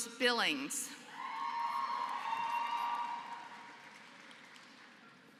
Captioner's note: applause